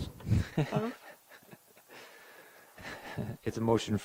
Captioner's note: laughing